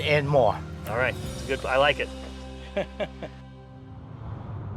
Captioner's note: laugh